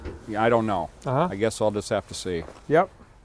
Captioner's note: metallic thunk sound